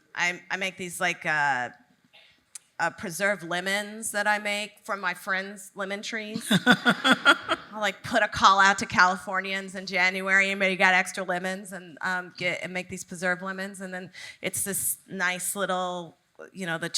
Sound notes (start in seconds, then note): 6.4 audience laughing